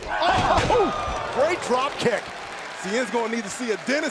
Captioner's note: crowd cheering